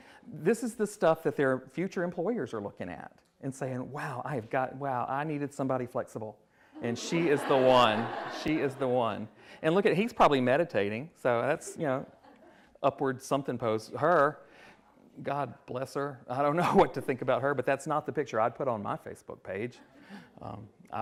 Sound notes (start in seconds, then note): 6.8 attendees laughing